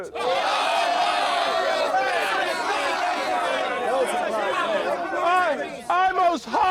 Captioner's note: crowd jeering